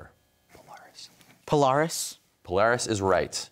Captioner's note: whispers